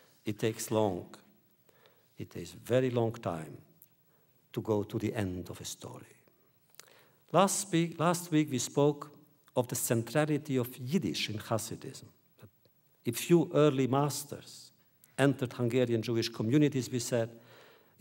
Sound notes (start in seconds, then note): none